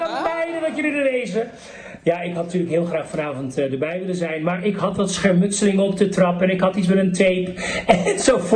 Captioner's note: laughs